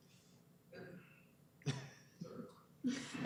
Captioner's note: chuckles